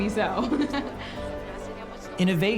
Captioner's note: laughs